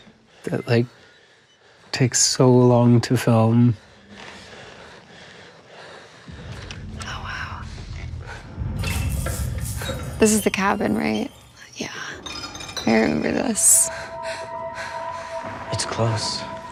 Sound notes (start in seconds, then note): 3.9 children panting; 8.8 light fizzles